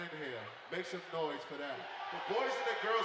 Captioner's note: cheering